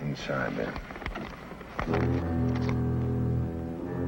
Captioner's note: paper rustles; suspenseful music